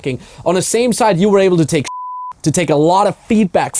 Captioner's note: beeping